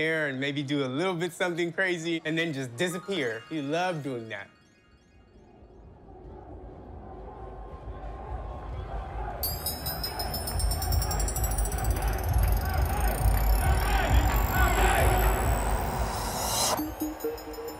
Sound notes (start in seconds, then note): 9.0 people cheer